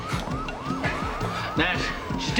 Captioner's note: sirens